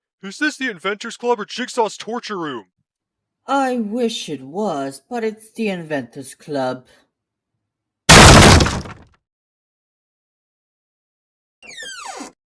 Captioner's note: british accent